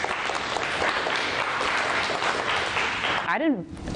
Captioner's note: applause